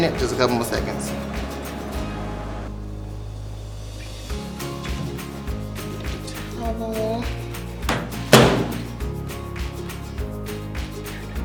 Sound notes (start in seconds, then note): 7.9 shuts microwave door